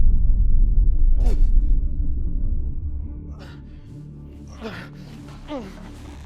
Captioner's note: mutters and groans